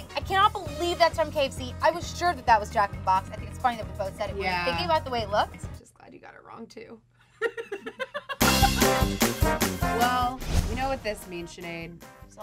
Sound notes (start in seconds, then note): 7.4 laughs; 8.3 upbeat music